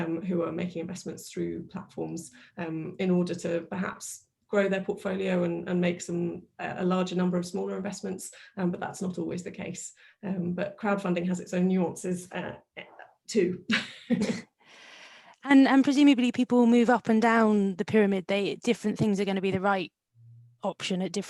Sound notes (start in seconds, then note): 14.7 laughs